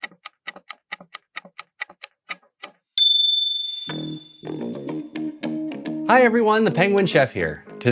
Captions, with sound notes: (timer ticking) (DING!) Hi everyone, the Penguin Chef here.